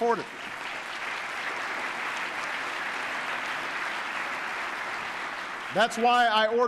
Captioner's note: applause